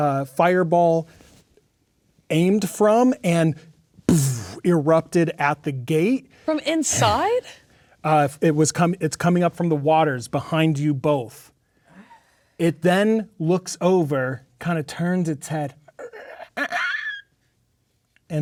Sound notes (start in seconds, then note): 4.1 imitates explosion